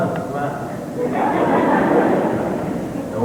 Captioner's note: laughter